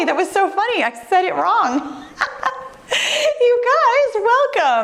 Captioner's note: giggles